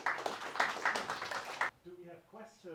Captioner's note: audience applauding